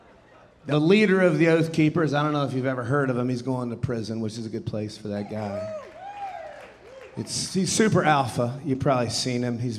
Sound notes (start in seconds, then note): 5.2 audience cheering and applauding